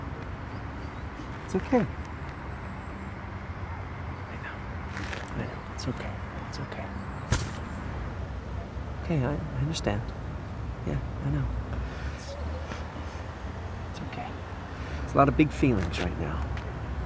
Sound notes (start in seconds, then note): 4.1 whispering